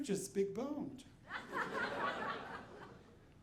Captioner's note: audience laughing